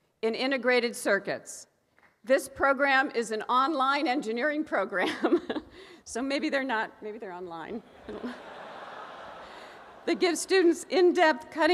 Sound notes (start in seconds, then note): 7.8 audience laughing